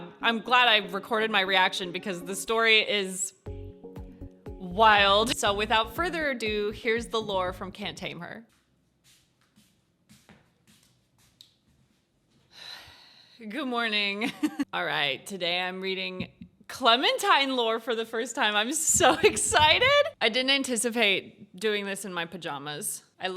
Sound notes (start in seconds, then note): 12.5 sighs; 14.3 chuckles